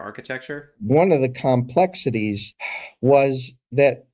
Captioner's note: sigh